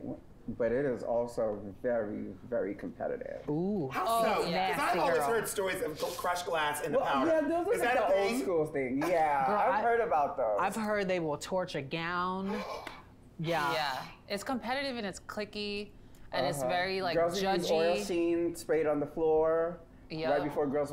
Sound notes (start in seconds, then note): 12.4 Peppermint gasps